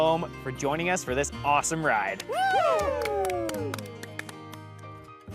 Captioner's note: cheering